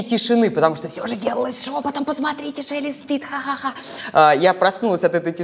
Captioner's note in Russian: громко шепчет